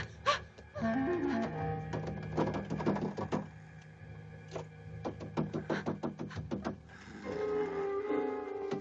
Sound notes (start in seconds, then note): 0.1 Priscilla moans; 1.8 door rattling